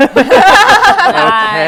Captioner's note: laughing